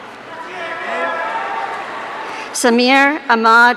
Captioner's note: audience cheering